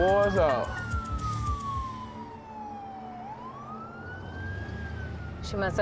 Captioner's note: sirens